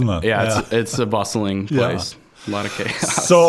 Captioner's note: chuckling